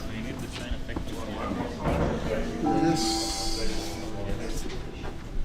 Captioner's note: people chattering; emotional piano music